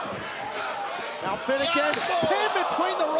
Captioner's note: crowd cheering